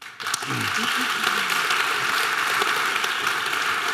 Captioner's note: audience applause